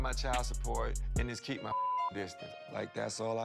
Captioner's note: beep